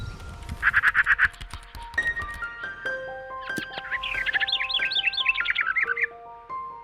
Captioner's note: bird chirping; insects chirping